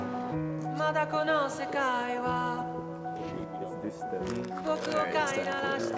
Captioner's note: indistinct chatter